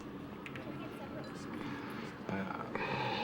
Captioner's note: sighs